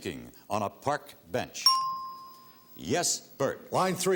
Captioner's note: ting